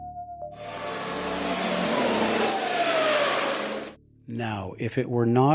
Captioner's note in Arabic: محرك السيارة يدور